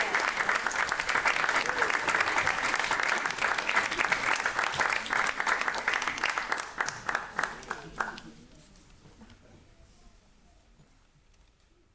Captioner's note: audience cheering